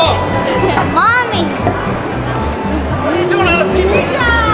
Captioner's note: laughs